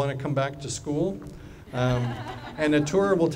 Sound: laughing

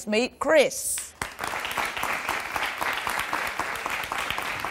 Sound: audience applause

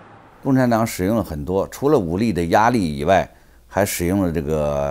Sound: speaks in Chinese

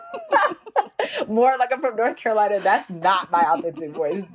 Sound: laughs

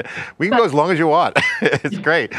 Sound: laugh; laughs

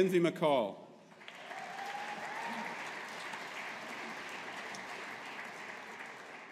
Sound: audience applauding

